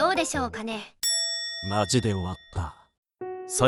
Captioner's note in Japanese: おりんの音